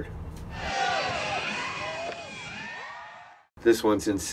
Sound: crowd cheering

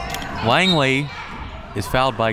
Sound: whistle

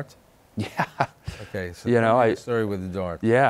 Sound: laughs

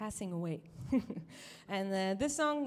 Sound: chuckles

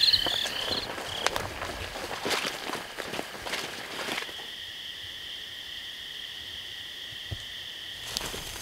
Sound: crickets chirping

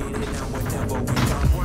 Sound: guns firing

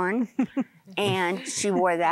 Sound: giggling

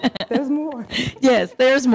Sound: laughing

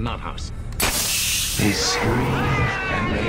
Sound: gas hissing

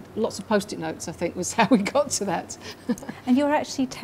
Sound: laughing

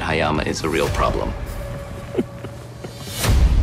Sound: chuckles

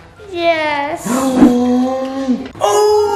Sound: gasps

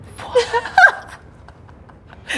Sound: laughs

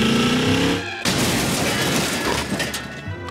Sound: car engine racing; crashing

